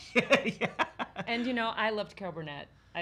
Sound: chuckling

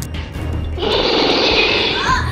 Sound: roar

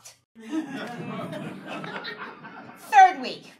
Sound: audience laughing

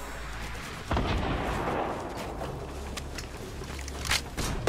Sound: explosion

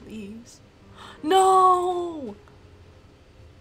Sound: gasps

